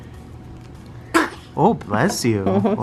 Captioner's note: sneeze